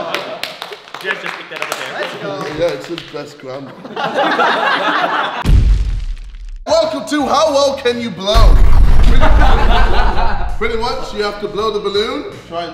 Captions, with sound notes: (clapping) - Let's go. - Yeah it says "Best Grandma" (laughing) (explosive sound) - Welcome to "How Well Can You Blow?" (explosive sound) (laughing) Pretty much, you have to blow the balloon.